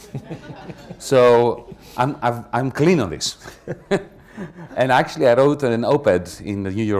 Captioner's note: laughter